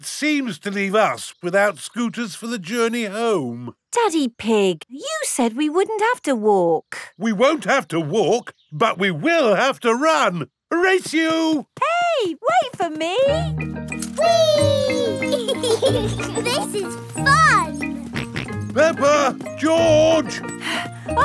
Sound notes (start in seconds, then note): 14.4 both laughing; 18.1 george snorts